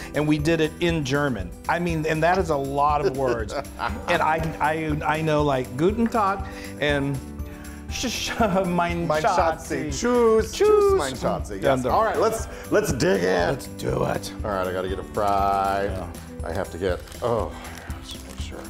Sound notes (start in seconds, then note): 3.0 laugh